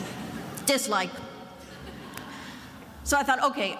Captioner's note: attendees laughing